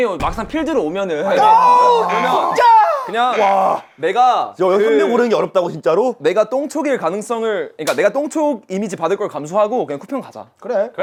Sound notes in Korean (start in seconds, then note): 1.2 절규; 1.4 하품